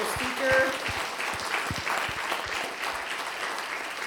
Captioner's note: applause